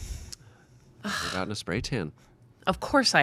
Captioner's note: scoffing